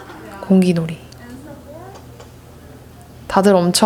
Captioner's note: korean